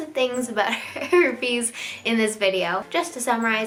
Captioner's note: chuckling